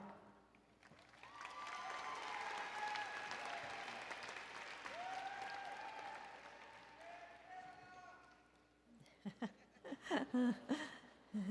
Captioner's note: applause and Cheering